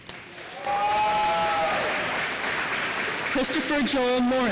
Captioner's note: applause